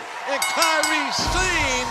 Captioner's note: bell ringing